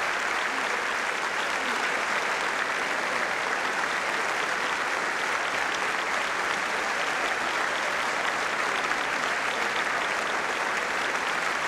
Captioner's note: applause